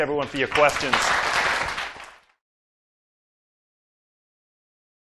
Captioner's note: applause